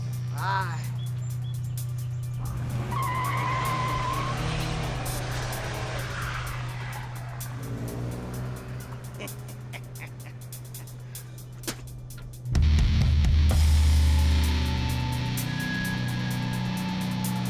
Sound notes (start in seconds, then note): 2.6 tires screeching; 8.4 laughing